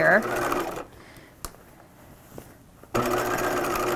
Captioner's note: machine whirring